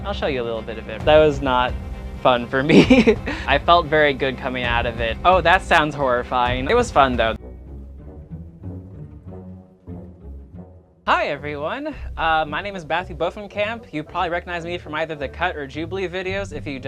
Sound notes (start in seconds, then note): 2.7 laughs